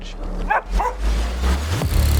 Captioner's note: dog barking; upbeat music